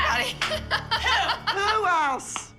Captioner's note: laughs